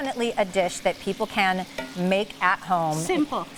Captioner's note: tongs clang pan